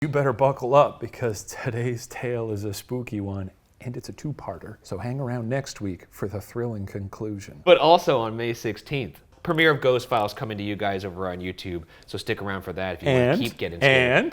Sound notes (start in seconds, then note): none